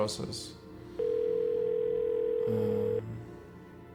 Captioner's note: dial tone ringing